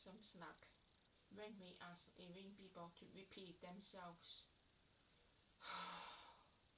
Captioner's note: sigh